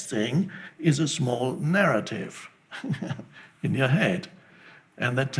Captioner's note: laughs